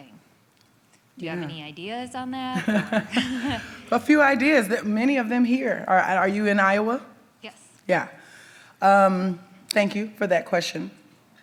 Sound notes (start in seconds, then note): 2.2 chuckles